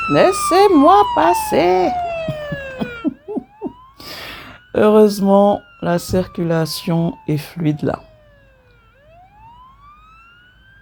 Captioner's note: laughs